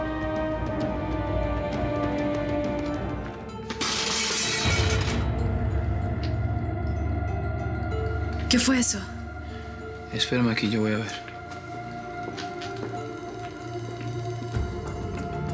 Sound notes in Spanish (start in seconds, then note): 3.8 Estruendo